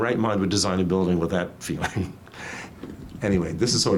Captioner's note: laughs